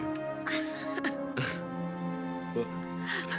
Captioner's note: laughter